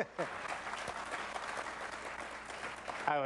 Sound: applause

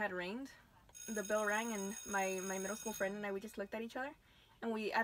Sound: school bell

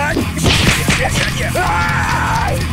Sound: heavy metal music; fighting sound effects

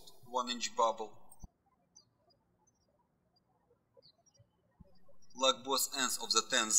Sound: birds chirping

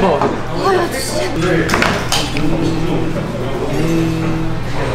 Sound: self-phone-vibrate-sounds

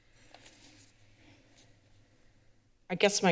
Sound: shuffling noises

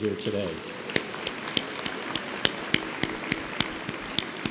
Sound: audience applauds

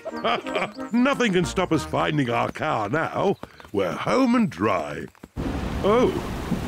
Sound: snorts and giggles; laughs

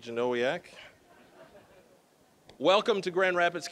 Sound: audience laughing

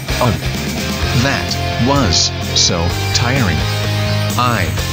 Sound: out of breath

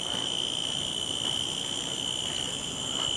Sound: cicadas

